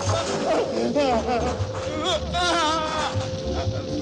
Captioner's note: yelling